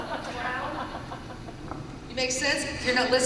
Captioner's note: laughter